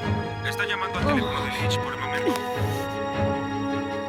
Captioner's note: voice message